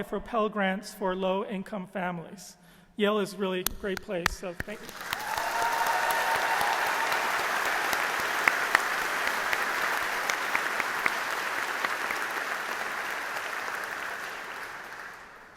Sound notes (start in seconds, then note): 5.4 audience applauding